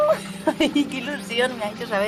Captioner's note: laughs